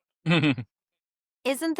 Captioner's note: chuckles